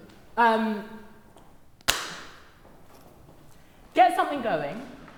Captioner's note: claps